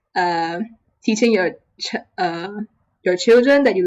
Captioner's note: stutter